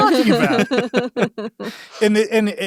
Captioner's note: everyone laughs